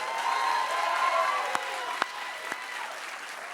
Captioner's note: cheers and applause